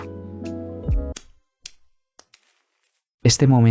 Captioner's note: silence